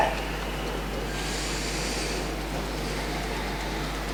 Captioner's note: deep breathing